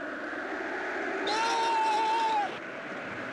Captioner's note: yells